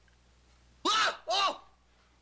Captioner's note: crying out